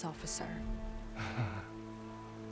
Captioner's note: laugh